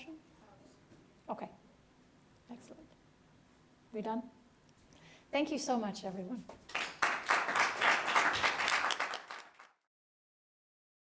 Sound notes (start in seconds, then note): 6.6 applause